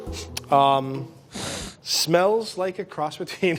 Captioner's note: sniffing